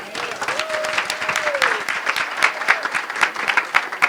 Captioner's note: applause